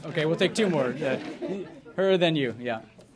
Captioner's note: laughter